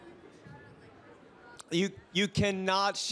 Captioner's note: faintly speaking